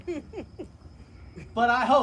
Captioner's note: laughter